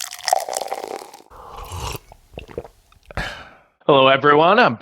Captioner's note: liquid pouring; sipping